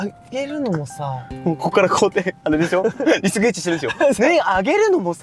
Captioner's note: laughs